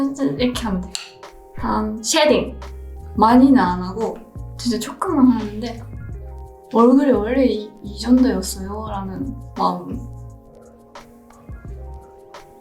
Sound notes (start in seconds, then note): 3.4 foreign language continues; 3.4 gentle music continues